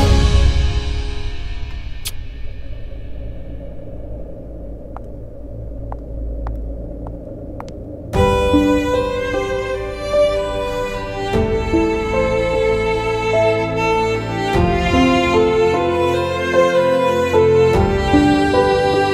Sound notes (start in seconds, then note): 2.0 Sheena kissing